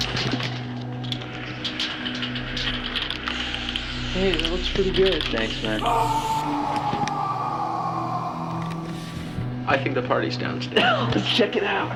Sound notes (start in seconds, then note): 5.9 scary sounds